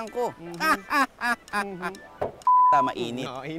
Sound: laughs

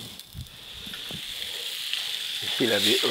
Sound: pan sizzling

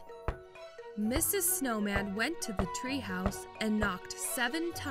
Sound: Mrs. Snowman knocking

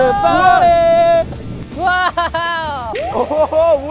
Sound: laughter

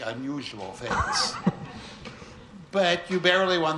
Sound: Steve laughs

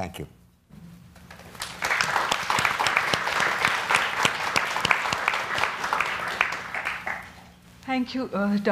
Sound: audience clapping

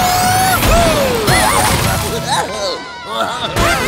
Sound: giggling

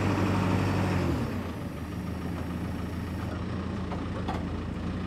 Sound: tractor engine humming

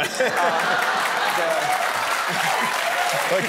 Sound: laughter

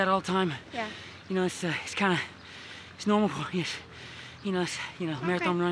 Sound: out of breath

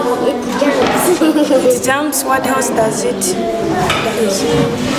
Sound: laughs

